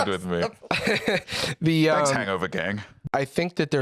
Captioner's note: laughs